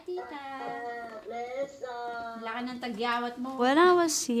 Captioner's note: both speak Filipino